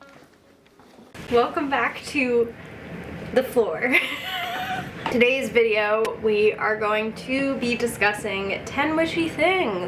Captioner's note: giggle